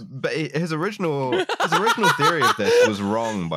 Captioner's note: laughs